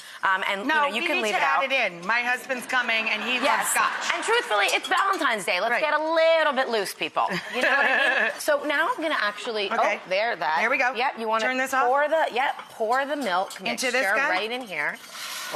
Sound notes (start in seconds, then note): 2.9 audience laughs; 7.3 laughs